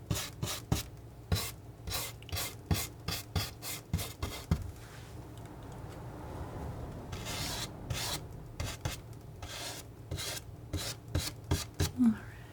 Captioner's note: scratching